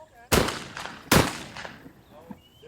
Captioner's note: gunshots fire